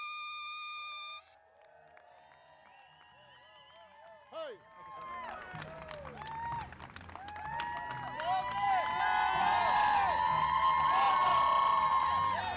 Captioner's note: applause